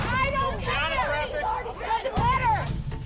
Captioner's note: shouting